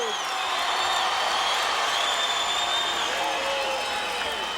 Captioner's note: crowd cheering